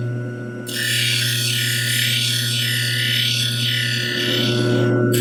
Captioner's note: machine grinding lens